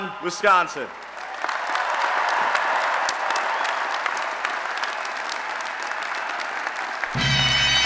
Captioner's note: applause and Cheering